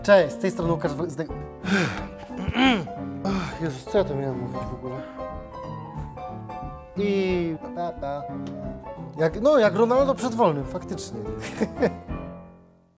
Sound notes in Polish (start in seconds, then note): 1.6 westchnięcie; 11.4 śmiech